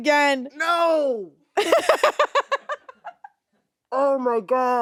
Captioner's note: laughing